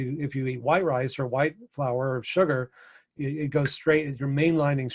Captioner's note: snaps